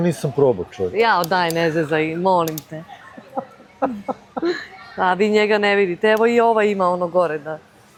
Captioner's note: laughter